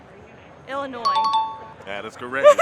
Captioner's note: chime dings